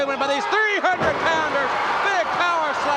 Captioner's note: audience cheers